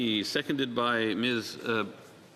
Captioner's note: speaking French